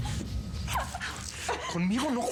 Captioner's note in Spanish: sollozos